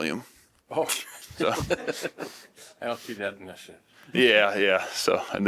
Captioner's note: laughter